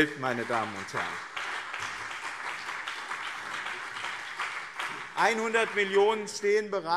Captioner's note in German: Beifall BÜNDNIS 90/DIE GRÜNEN und CDU